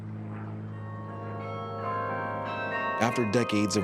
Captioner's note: bells ringing